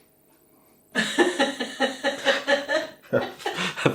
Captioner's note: laffin